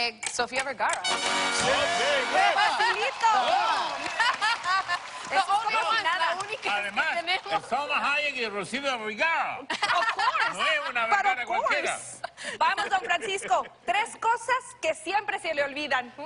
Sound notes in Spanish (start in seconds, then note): 6.9 Risas; 8.5 Con acento raro; 9.6 Risas